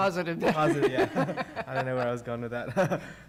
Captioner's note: laughter